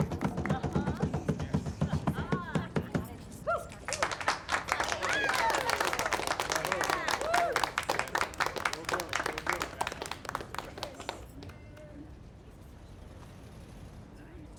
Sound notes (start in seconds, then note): 4.6 applause; 6.7 cheers